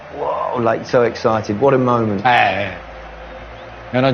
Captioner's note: toto grunts